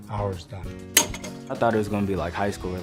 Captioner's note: wires being cut